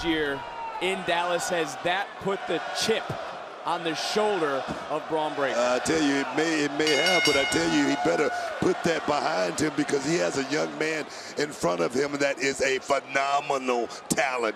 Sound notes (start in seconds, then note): 6.8 bell rings